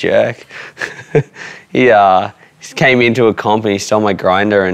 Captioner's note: chuckles